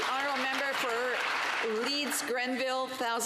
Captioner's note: some Applause